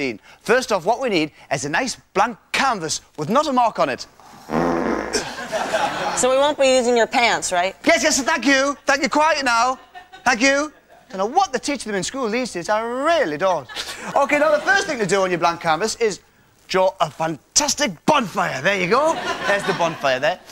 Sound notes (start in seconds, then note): 4.2 Ant farts; 5.1 crowd laughs